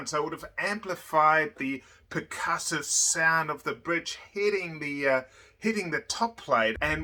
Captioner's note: none